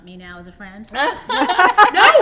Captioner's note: laughter